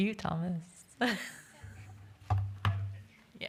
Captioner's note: laughs